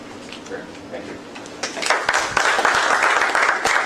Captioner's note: applause